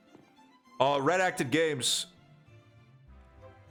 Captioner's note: chatter